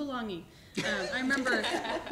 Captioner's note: laughter